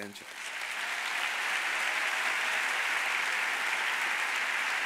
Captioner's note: audience applauds